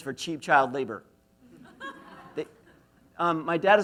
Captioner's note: laughs